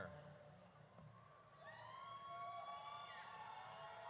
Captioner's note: audience cheers